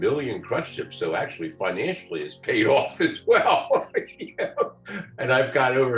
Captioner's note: laughs